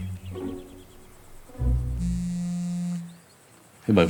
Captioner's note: the phone rings